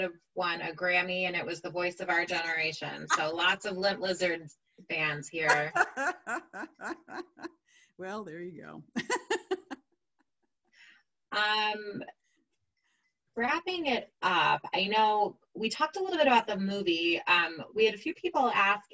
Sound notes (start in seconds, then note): 5.4 laughing; 10.5 laughing